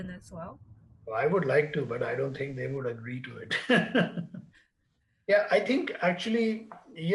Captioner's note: laughs